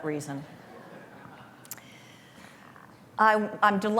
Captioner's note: laughter